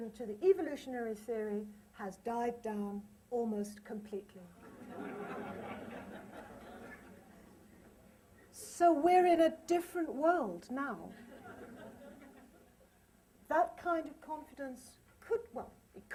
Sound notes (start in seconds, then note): 4.6 laughter